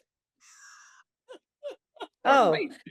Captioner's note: laughs